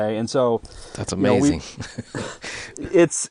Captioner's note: laughing